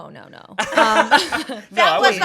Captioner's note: everyone laughs